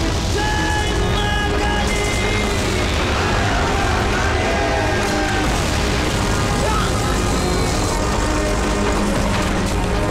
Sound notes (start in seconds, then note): 5.2 Explosion